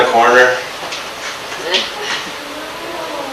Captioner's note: audience awwws